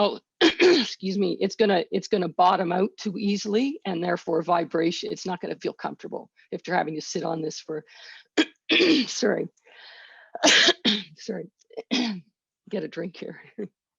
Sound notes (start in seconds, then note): 10.4 coughs